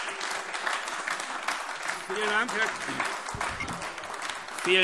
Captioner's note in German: Beifall AfD - Zurufe DIE LINKE